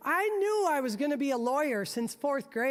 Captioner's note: none